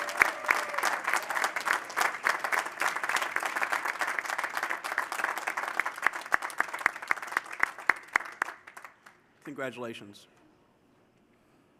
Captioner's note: applause